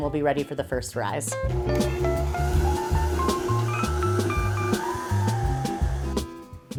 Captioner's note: blender whirs